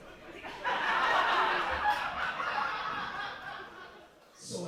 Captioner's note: crowd laughing